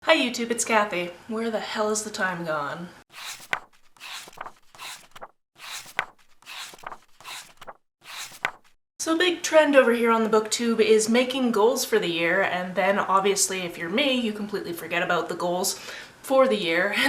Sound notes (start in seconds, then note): 3.1 pages turning